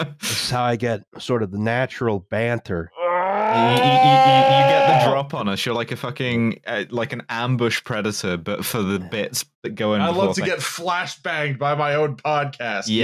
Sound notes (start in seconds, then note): 0.0 laughs; 3.2 yelling